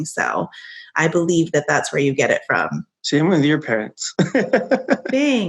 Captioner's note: laughing